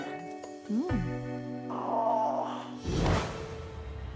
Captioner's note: Abby groans